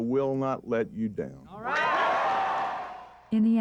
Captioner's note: cheers and applause